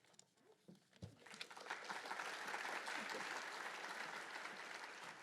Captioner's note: applause